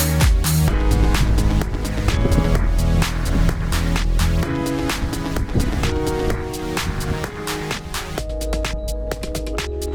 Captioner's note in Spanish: Sonido de pitidos electrónicos